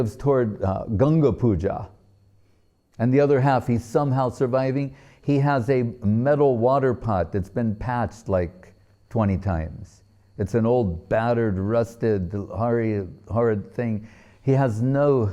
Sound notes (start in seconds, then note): none